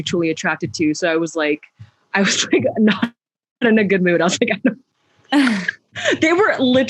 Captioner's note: laughs